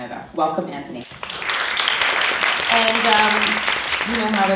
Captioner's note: audience applauding